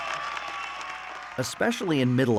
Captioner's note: audience cheer and applauds